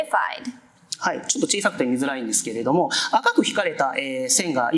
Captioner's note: speaking japanese